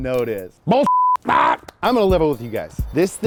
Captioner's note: beep